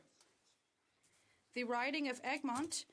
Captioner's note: speaking French